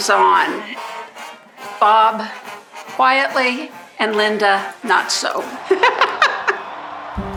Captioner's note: laughs